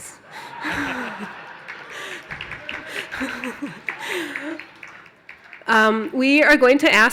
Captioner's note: cheers and applause